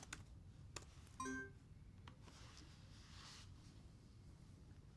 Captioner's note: laptop chimes